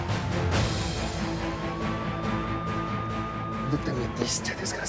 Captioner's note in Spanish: Sirenas